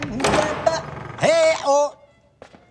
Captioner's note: door opens